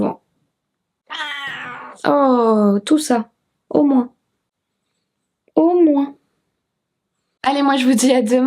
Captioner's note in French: miaulement de Kiki